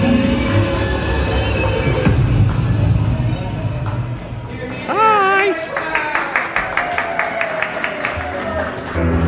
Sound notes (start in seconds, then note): 2.0 ominous thudding; 4.8 onlookers applaud